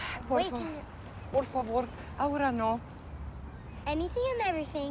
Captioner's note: speaking in Spanish